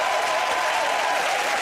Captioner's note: cheering and applause